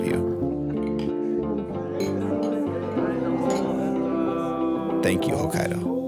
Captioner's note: glasses clinking